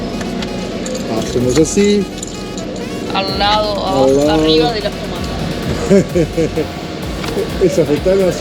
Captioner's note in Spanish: risas